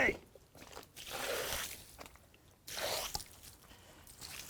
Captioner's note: water splashing